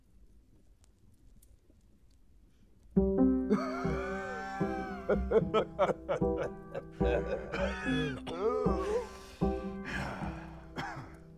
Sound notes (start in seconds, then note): 3.5 both laugh